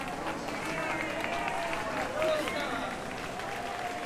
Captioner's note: clapping